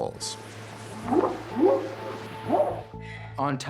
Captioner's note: whooping sound